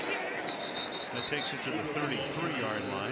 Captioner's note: whistle